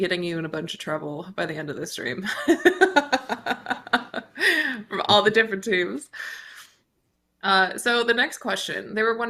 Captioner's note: chuckles